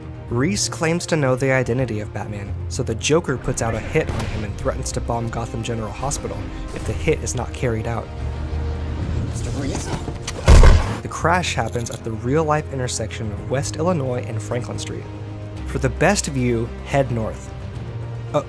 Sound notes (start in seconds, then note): 10.3 gunshot fires